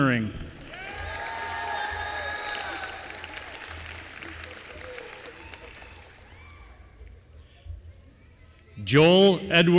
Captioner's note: applause